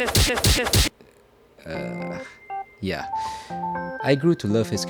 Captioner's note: breathes